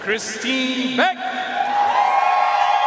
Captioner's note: audience cheering and applauding